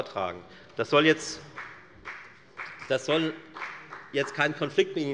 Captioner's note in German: Beifall bei der FDP